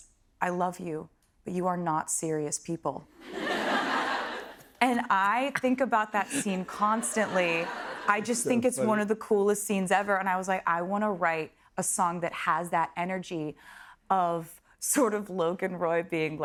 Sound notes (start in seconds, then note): 3.2 laughter